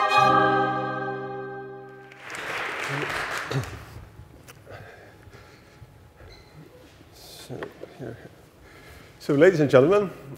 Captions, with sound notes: [audience applauding] - So ladies and gentlemen,